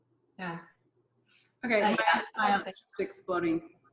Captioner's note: audio chopping